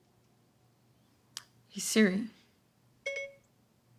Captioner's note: phone beeping